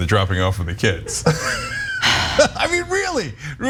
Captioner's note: laugh